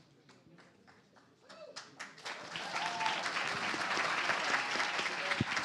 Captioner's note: cheers, applause